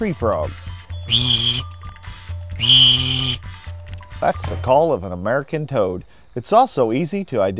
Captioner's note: wildlife call